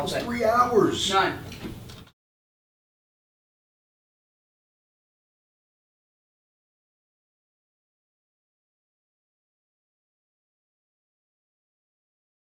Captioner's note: silence